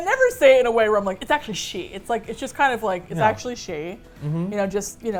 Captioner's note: snobbishly